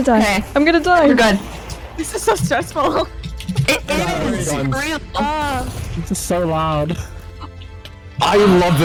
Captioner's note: chatter